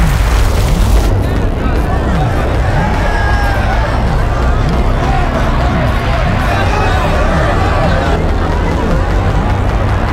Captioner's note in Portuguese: Barulho de chamas; Pessoas gritando